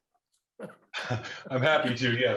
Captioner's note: laughter